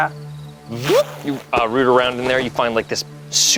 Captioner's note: zips